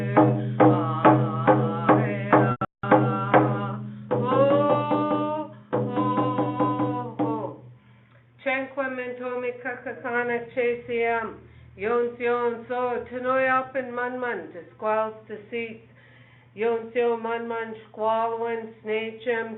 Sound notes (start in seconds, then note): 8.6 speaking in foreign language